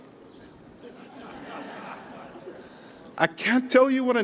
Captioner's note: laughter